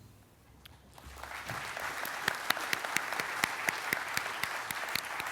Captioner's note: audience clapping